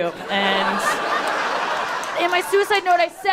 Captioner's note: people laughing